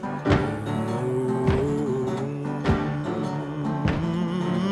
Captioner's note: singer continues humming